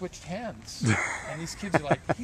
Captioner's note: laughing